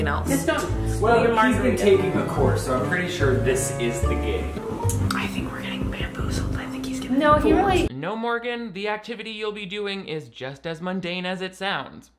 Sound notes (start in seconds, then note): 4.6 whispering